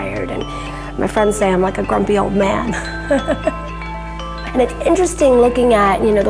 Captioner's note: laughs